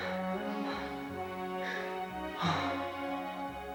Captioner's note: Mrs. Beaver gasps